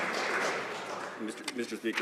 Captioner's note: some Applause